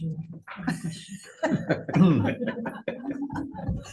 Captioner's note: members laugh